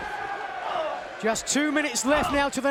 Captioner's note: fans cheering; wrestlers grunting